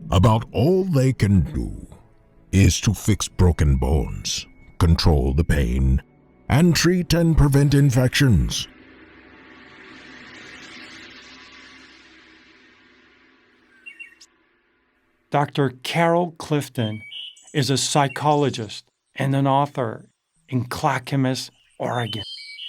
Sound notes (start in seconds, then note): 9.2 cymbals ringing; 13.6 birds chirping